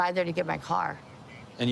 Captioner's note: none